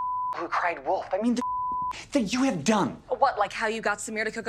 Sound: beep

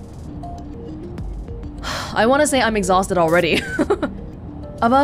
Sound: exhales; chuckles

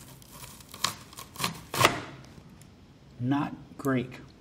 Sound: onion slicing

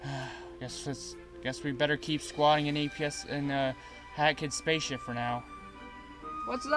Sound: sigh

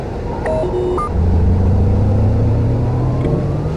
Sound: power up sound

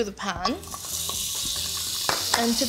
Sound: butter sizzling

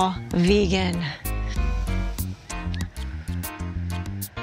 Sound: deep breath

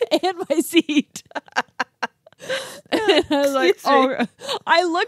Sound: laughs

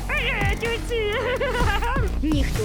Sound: laughs

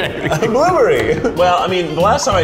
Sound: laughing

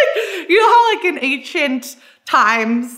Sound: laughs

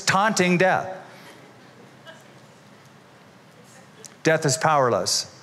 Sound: laughter

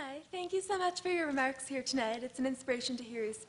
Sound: none

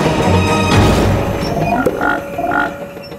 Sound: croaking

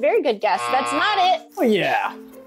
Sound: buzzer rings

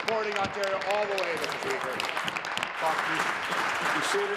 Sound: applause

